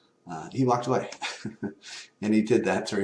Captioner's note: laugh